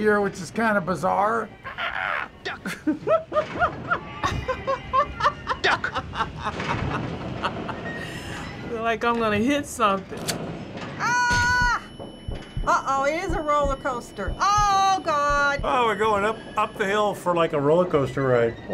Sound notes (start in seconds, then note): 1.6 giggling; 4.4 laughing